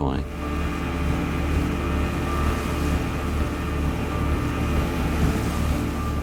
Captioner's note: motor whirring; water splashing; tense music continues